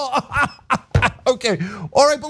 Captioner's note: laugh